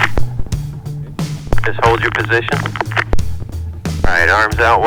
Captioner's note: ground Radio